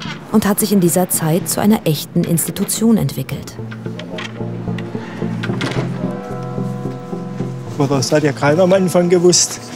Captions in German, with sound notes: und hat sich in dieser Zeit zu einer echten Institution entwickelt. (Ruhige, abwartende Musik) (Kirchenglocken) Das hat ja keiner am Anfang gewusst,